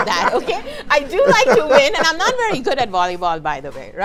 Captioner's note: laughing